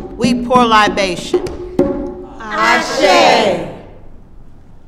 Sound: voices respond

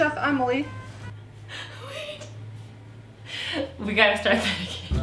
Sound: laughing

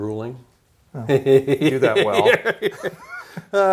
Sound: laughter

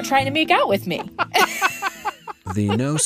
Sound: both laughing

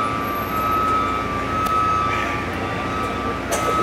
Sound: machines beeping

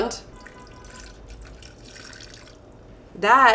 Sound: bourbon drips

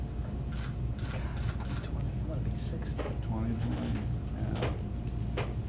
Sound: camera shutter clacks repeatedly

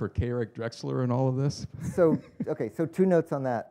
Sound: chuckles

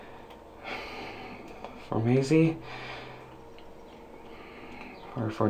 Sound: sighs

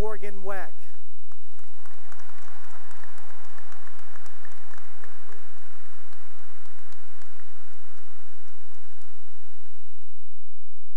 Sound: cheering and applause

